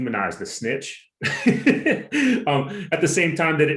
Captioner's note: laugh